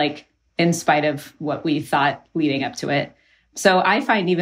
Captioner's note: none